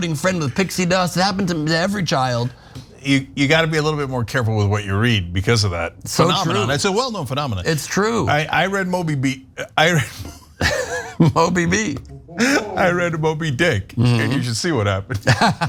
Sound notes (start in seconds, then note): 9.9 laugh; 15.2 laugh